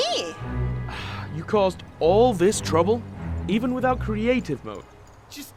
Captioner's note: sighs